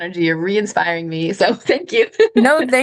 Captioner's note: laughs